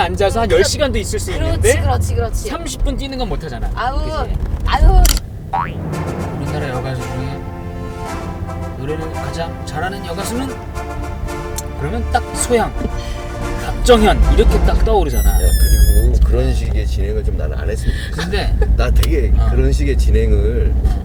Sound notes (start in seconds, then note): 6.3 speaking with a flattering tone